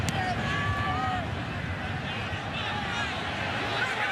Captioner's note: cheering